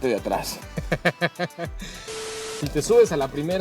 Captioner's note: laughter